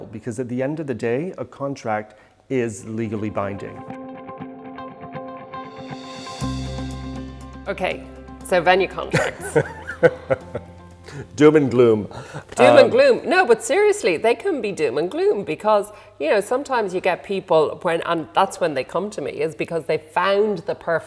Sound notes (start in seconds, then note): 4.2 upbeat music; 9.1 laughing